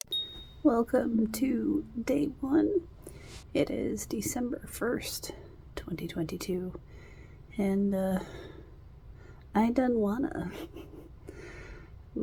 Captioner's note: chuckles